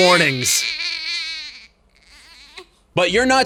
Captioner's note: baby whining